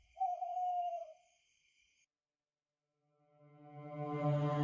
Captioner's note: owl hooting